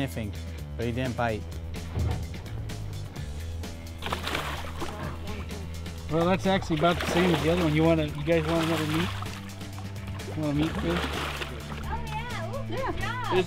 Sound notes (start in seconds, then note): 4.6 splashing sounds